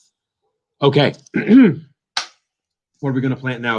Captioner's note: clears throat